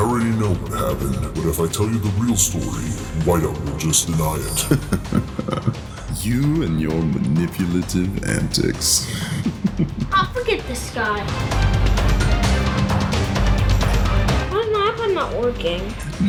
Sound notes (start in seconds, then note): 4.2 laughing; 11.7 intense music